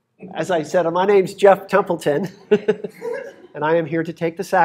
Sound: laughs

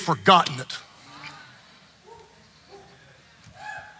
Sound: congregant whooping

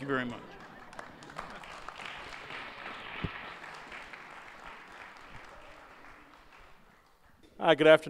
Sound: applause

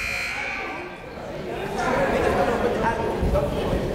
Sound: chatter

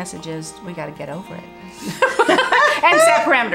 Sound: all laughing

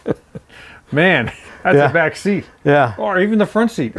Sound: chuckles

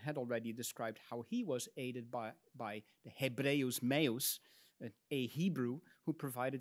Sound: speaks in Latin

